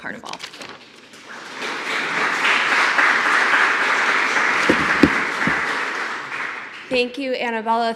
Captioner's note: applause